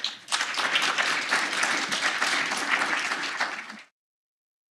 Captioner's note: applause